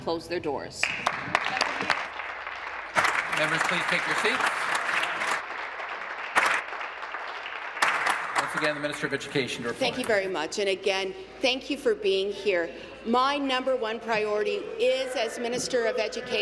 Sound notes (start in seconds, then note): 3.9 applause